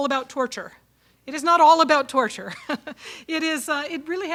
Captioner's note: chuckles